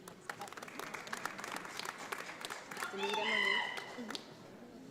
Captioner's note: audience applauds